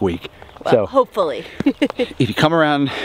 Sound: laughs

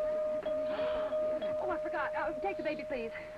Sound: gasps

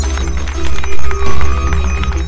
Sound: applause; electronic whirring

